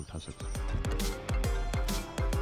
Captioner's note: Phone ringing